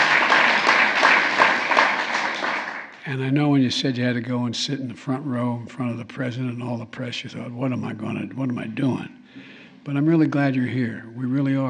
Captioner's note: applause